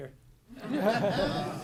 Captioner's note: laughter